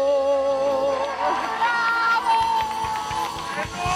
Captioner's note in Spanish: Ovación